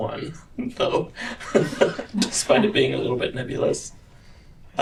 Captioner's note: laughter